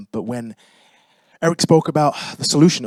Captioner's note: none